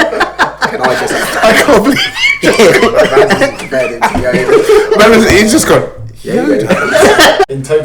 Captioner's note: laughs